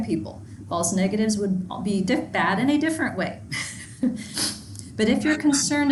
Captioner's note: chuckles